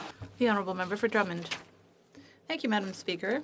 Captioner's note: speaking French